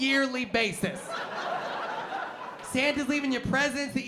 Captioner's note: laughter